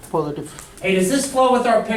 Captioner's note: voiceover